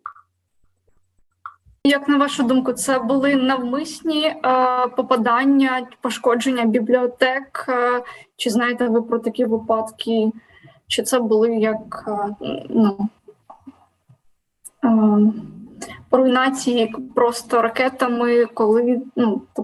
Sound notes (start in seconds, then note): 1.7 foreign Language